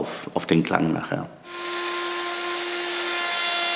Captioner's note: sanding noises